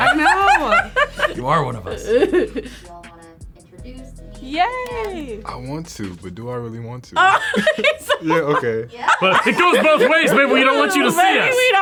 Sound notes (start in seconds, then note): 7.2 laughs